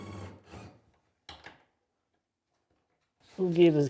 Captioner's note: drilling sounds